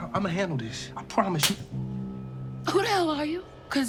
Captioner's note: hand slapping